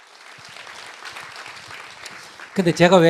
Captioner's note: audience Appause